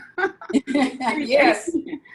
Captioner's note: all laughing